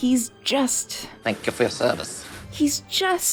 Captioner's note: Jack in a funny voice